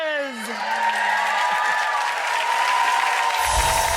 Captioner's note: crowd cheers